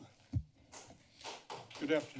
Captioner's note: applause